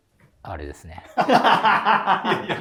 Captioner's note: laughing